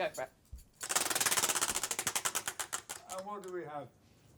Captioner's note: ratcheting